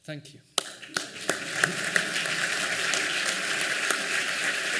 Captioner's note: applause